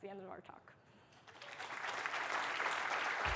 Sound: applause

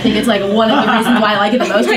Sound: laughs

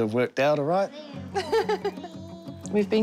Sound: chuckles

